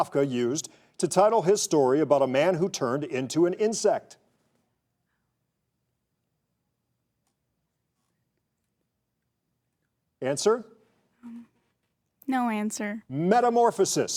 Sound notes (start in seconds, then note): 7.0 contestant whispering